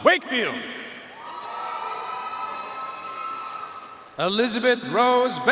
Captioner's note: audience cheering and applauding